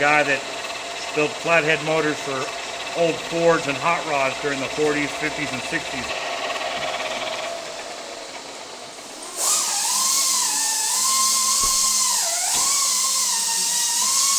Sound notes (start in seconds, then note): 9.3 loud grinding noise